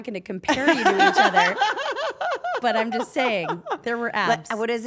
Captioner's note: laugh